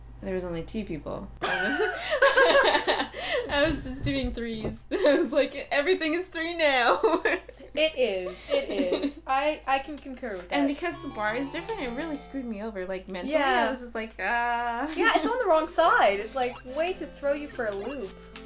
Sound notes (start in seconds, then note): 1.4 laughter; 1.5 laughing